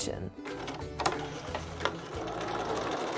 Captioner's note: click, whirr